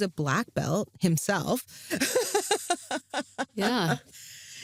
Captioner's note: laughs